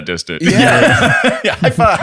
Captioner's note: laughter